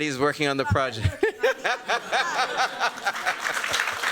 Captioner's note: laughter; applause